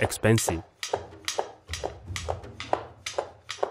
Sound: knife thudding

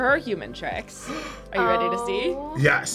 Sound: gasps

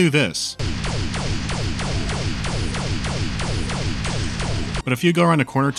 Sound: pow-pow-pow-pow-pow

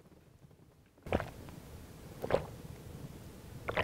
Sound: gulping

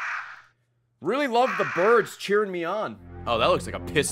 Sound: crows cawing

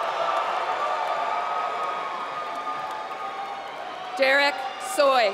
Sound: applause

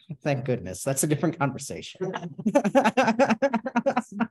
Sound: laughs

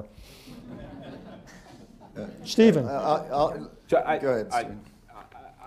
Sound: laughter

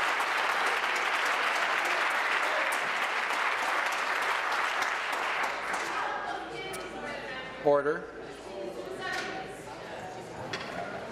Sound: applause

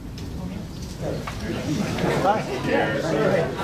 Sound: murmuring

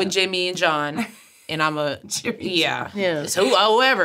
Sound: laughs

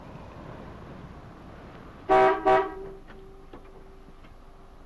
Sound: horn honks

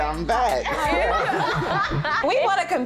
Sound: ladies laughing

